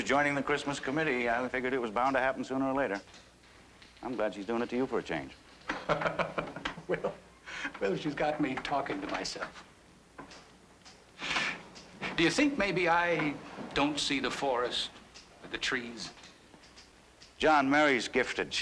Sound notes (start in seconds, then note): 5.7 john laughs